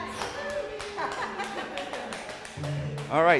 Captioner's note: applause